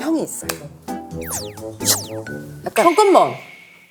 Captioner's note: swoosh